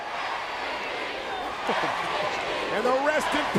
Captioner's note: applause